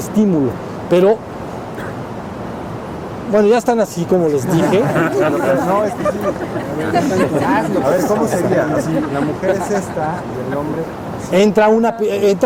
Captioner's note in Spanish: Risas